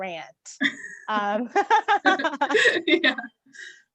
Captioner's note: laughs